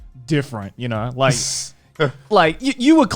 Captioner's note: all laughing